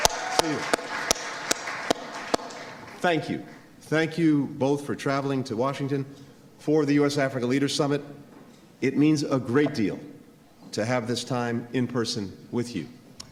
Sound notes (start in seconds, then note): 0.0 applause